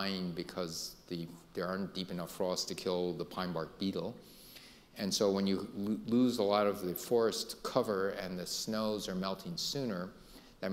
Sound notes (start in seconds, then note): none